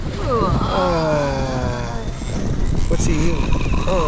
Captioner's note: both expressing disgust